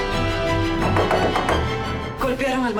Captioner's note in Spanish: Toques en la puerta